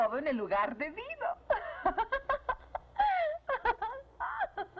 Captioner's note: laughing